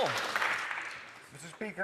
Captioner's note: applause